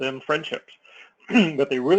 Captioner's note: cough